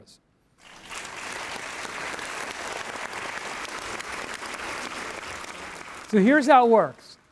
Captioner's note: applause